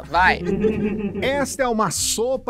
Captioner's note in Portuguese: risadas